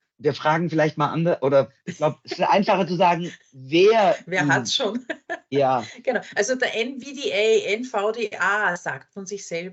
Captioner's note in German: lacht